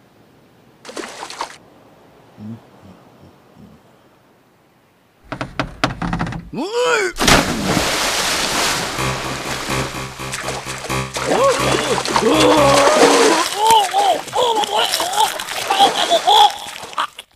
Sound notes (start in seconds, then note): 0.8 splash; 7.1 splash; 8.8 horror music; 11.7 terror screaming; 13.0 bone crunching